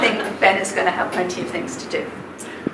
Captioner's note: laughing